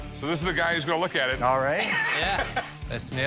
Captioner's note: laughter